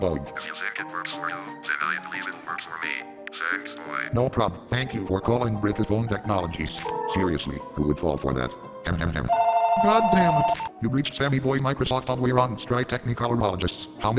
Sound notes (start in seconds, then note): 9.3 riiiiiiiiiiiing!!!